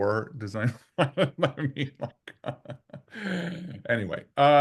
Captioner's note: laughing